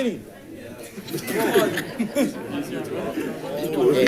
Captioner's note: group laughing; crowd chatting